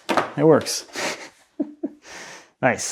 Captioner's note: laughs